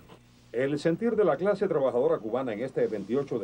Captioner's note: speaking Spanish